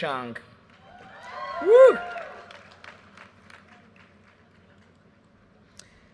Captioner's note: audience cheers and applause